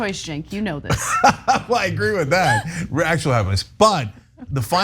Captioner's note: laugh